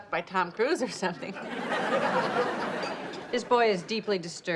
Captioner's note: audience laughs